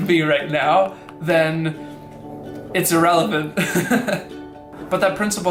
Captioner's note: laughs